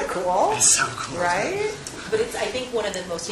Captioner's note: laugh